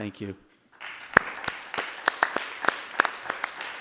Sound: group applauds

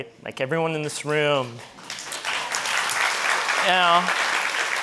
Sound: audience applauding

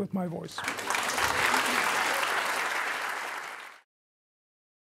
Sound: audience applauding

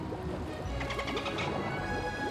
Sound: dolphin chattering

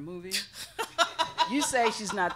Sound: laughing

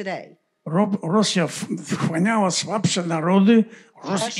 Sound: foreign language

